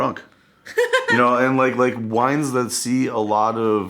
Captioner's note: laughing